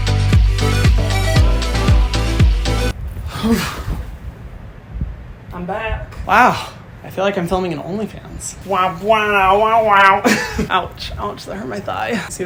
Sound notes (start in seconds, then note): 8.8 Hyram imitating sexy music